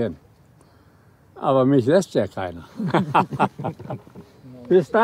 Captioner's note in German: lacht